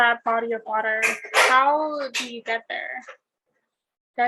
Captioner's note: metal clanging